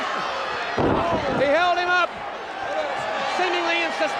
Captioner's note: crowd cheering; wrestlers thudding on ring